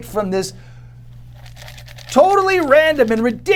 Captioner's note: papers rattle